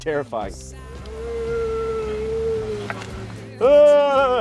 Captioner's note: moaning